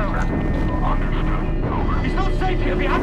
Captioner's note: radio